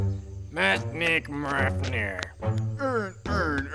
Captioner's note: speaks gibberish